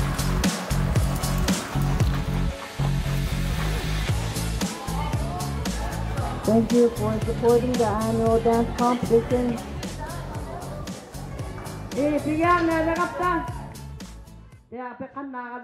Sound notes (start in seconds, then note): 11.6 crowd chattering; 14.4 speaking alternate language